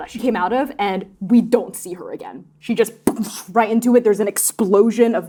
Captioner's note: impact noise